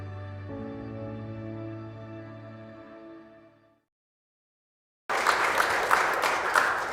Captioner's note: applause